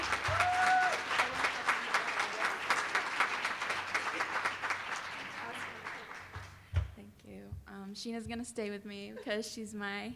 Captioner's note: applause